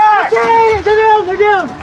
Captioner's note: screaeamiming